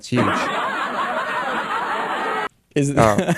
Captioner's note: laugh track; laughs